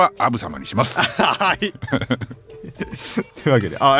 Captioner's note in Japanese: 笑い